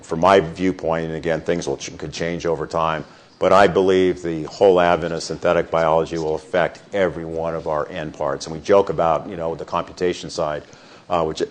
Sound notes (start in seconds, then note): none